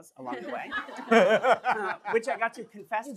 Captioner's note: laughter